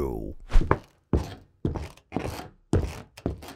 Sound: footsteps clop

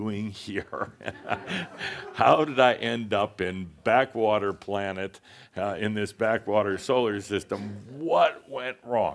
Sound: laughter

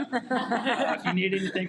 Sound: board members and attendees laugh

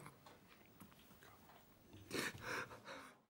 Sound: whispers

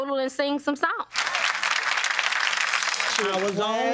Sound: audience clapping

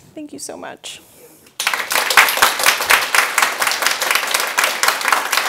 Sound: audience applauding

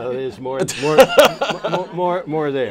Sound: laughter

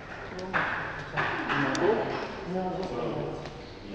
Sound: chatter

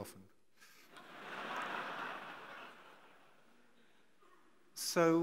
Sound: audience laughing

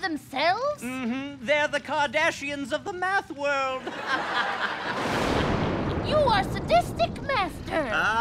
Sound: laughter

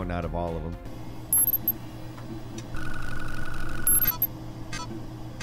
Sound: screen beeping

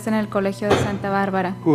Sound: speaking foreign language

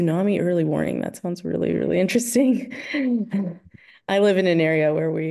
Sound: laughing

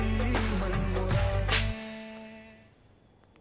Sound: slapping sound

